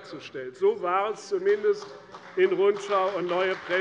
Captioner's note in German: Beifall bei der CDU und dem BÜNDNIS 90/DIE GRÜNEN